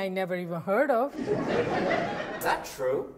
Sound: audience laughs

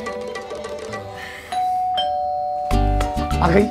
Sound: doorbell rings

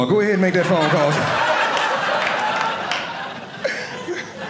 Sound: audience laughing

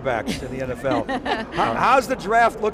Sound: laughs

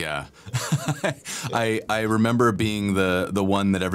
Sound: laughter

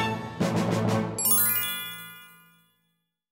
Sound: gling!

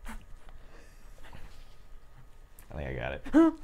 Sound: chuckles

